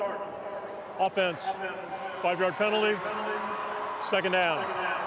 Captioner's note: fans cheer